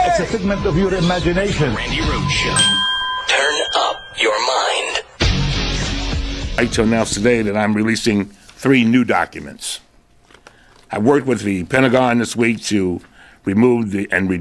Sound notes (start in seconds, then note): 3.2 bell rings; 4.7 rock music